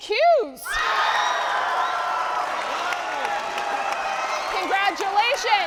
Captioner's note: audience applauding